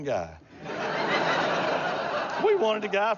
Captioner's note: laughter